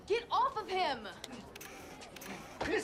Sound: all murmuring

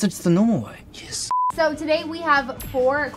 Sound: beep

